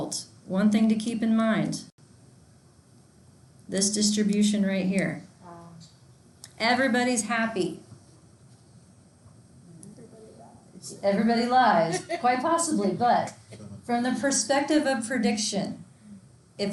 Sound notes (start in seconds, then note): 10.7 laughs